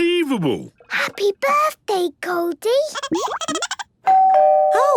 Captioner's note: Goldie giggling; doorbell ringing